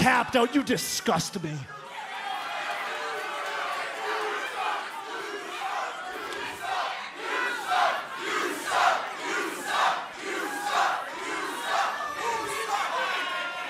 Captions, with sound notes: >> YOU TAPPED OUT? YOU DISGUST ME. >> [CROWD CHEERING]